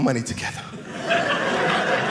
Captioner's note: audience laughing